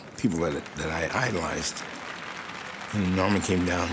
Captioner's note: applause